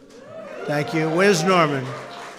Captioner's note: applause